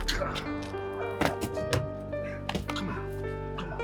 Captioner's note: person grunting